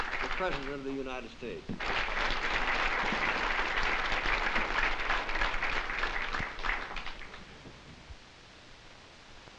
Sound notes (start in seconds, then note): 1.7 applause